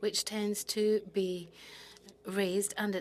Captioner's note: speaking French